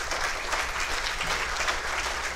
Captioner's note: applause